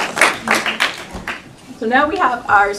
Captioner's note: applause